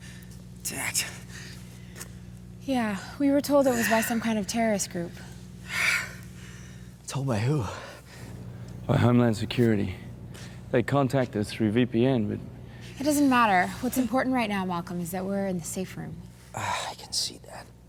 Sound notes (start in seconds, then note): 5.7 exhales deeply